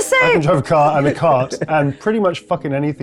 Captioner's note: chuckling